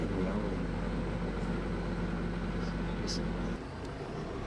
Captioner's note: sound of machinery